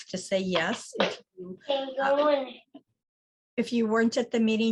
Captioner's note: faintly speaking